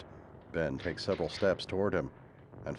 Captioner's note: gun cocks